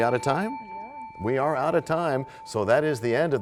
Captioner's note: bell rings, time expires